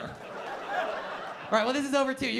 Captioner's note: laughter